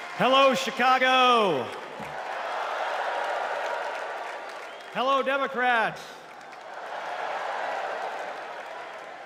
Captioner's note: cheers and applause